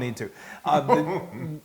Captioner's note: laugh